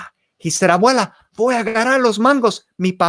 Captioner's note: spoken in foreign language